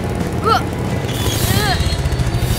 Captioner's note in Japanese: 力み声